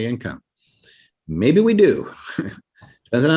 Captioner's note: laughs